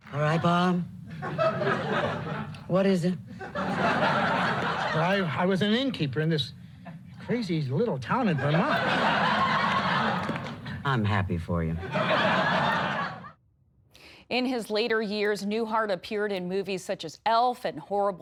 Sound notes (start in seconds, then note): 11.7 laughter